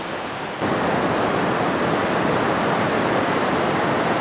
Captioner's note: wind blowing